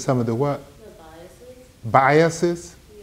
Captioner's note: woman's Voice